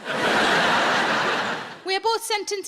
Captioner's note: audience laughing